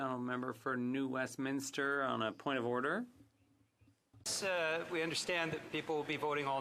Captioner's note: speaking French